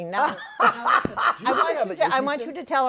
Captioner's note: laughter